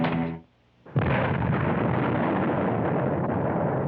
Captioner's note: explosion